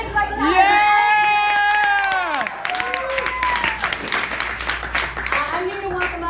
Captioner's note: so much cheering